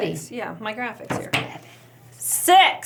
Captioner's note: table stumping